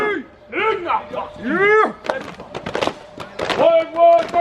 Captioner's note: group grunts and begins clapping